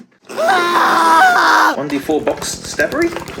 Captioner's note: screaming